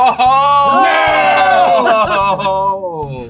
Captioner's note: laughs